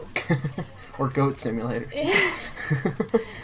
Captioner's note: laughs